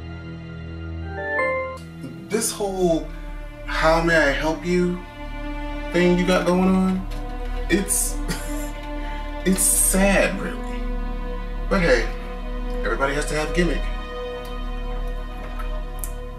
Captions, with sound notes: This whole 'How May I Help You' thing you got going on It's (laugh) it's sad really But hey, everybody has to have a gimmick